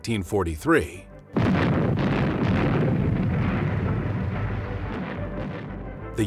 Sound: sound of explosions

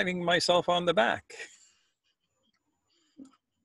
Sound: laughs

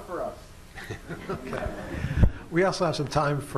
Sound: laughter

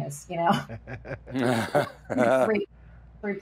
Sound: chuckles; laughing

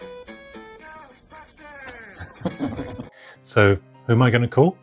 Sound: synth Voice

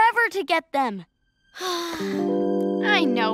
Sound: sigh

